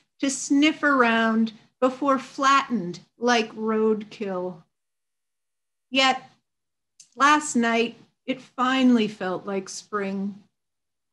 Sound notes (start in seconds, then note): none